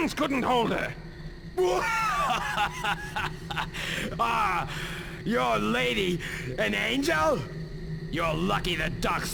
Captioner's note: bursts out laughing